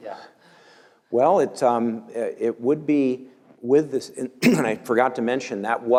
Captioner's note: cough